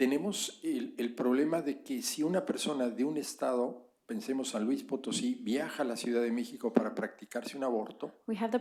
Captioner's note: spanish